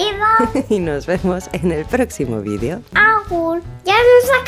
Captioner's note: laugh